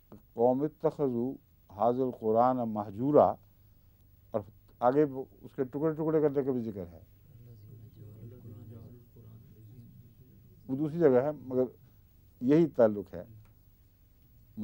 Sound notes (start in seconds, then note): 0.3 Arabic